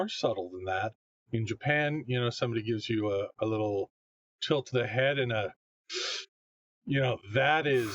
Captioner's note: inhales deeply